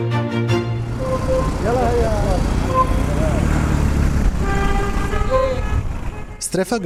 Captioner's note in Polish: odgłosy ulicy